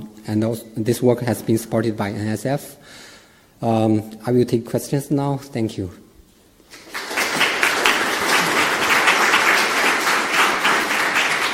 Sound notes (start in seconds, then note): 6.7 audience applauding